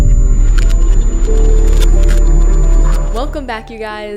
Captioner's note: TV glitching sound effects